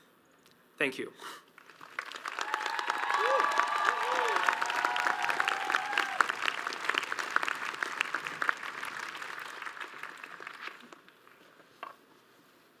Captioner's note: audience applauds